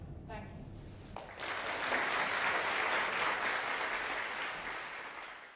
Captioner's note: audience applauding